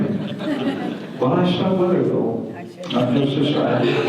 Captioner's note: audience laughter